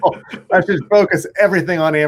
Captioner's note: laughs